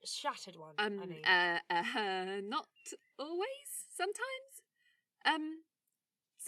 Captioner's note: laughing